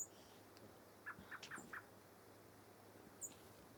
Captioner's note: birds chirping